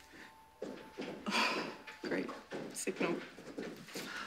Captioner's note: sighs